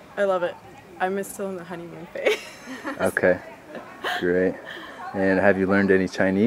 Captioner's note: laughing